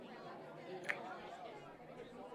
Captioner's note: kiss